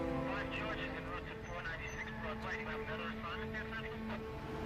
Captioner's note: dispatch static